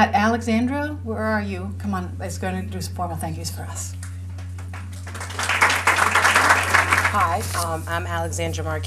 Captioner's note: appluase